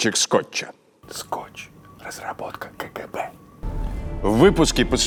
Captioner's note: whispering